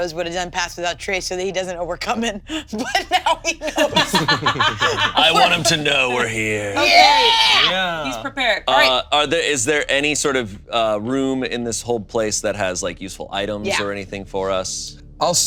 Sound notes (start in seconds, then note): 2.8 laughs; 4.4 all laughing